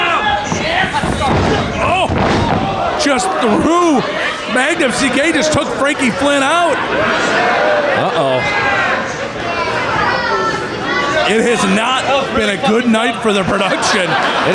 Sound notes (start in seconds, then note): 9.8 crowd shouting